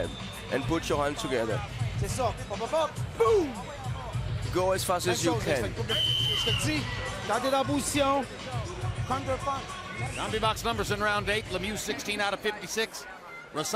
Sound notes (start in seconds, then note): 8.4 speaking French